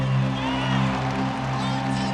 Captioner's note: cheering